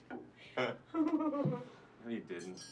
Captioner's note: both laugh